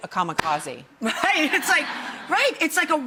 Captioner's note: all laughing